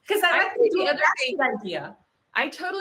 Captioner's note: laughs; group chattering